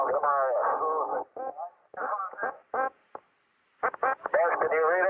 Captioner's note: radio squawking choppily